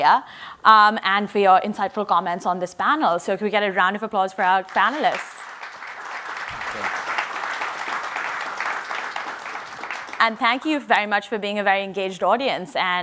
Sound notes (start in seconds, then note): 4.5 audience applauds